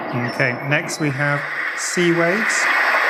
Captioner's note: various white noise sounds; various nature sounds